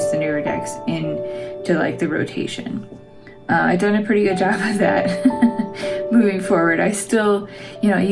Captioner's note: laugh